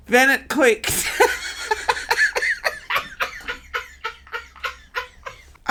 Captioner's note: laughing